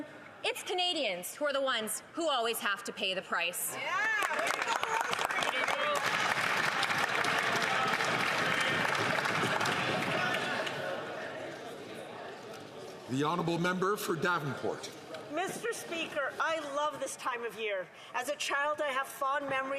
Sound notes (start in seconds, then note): 6.8 some Applause